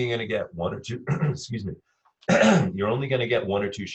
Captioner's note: clears throat